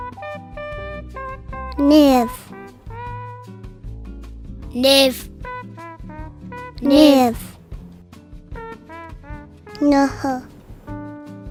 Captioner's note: kids speaking Cheyenne numbers